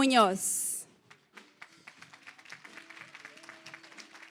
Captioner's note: applause